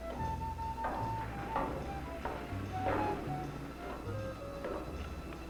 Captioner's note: jazzy dramatic music; footsteps approaching